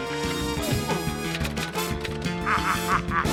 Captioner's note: typewriter clacks; cackles